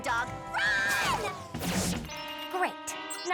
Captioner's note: computer beeps